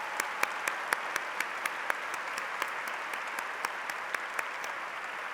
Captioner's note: applause